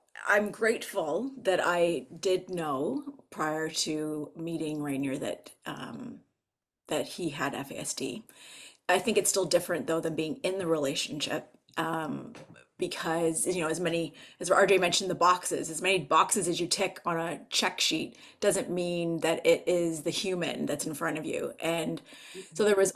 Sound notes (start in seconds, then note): none